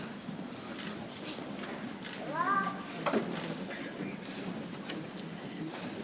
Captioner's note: people chattering softly